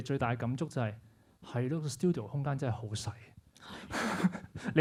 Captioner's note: laughs